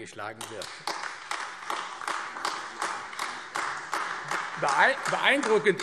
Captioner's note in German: Beifall AfD